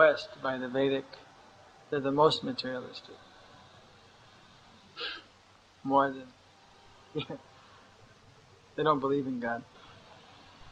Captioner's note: laughs